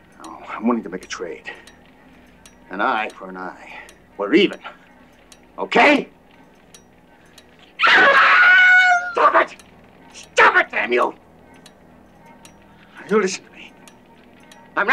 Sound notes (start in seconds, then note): 7.8 screaming loudly